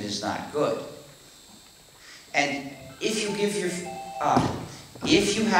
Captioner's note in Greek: ακούγεται ο ήχος ενός κινητού που χτυπάει